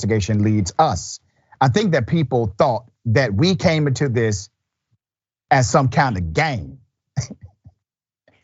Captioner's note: laugh